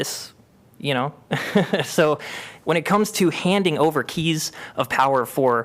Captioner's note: laughter